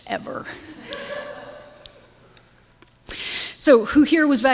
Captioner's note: audience laughs